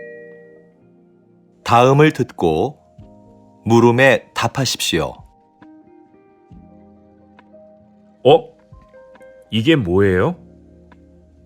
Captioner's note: Korean audio